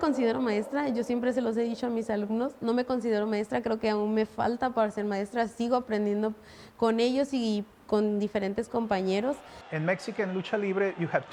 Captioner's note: speaking Spanish